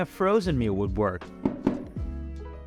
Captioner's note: knock knock